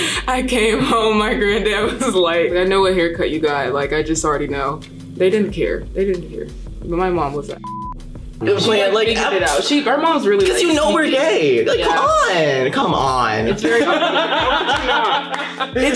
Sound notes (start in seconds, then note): 7.6 beeps; 13.5 laughing loudly